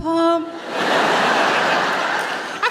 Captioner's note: laughter